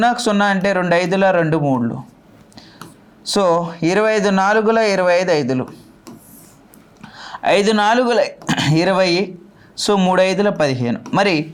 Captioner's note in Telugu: గొంతు సవరించుకోవడం